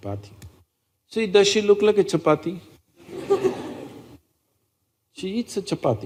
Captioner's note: laughter